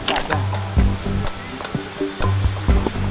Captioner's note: raining